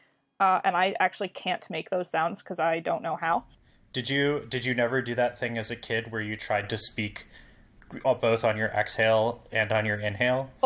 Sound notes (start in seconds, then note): none